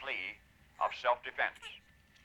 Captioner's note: baby gurgling